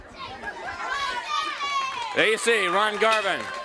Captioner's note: crowd chatter